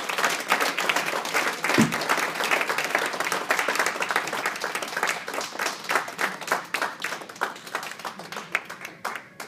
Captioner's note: applause